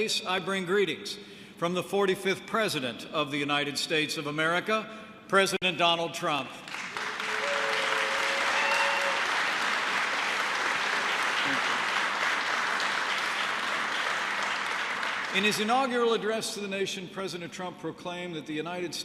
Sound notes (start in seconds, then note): 6.6 applause